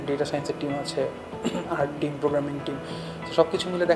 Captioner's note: cough